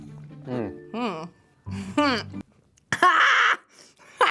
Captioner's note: exclaims intriguingly; sips drink; exclaims intriguingly; coughs then screams